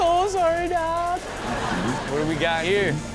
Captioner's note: audience laughs